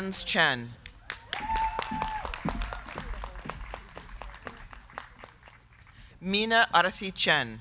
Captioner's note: crowd clapping; crowd cheering